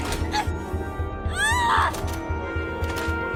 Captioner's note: shouts